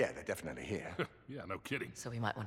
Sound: laugh

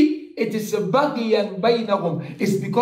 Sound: Arabic

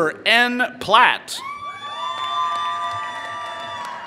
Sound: applause

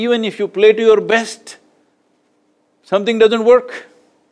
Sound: none

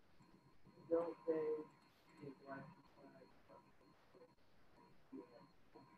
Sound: speaking faintly

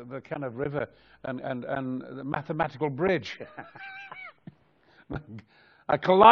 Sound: laughs

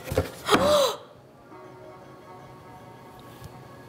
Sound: gasps

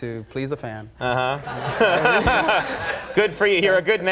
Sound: laughs

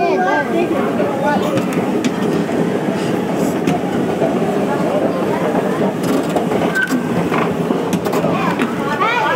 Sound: escalator hums and clacks; child, calling out

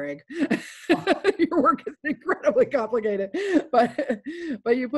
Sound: laughs

